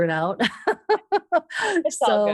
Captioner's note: laughs